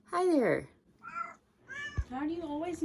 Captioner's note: meows